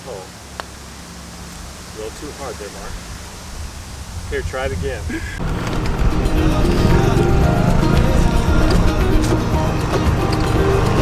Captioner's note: laughter